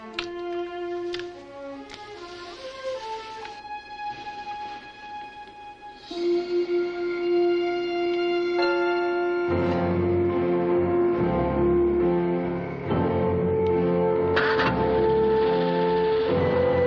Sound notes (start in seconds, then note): none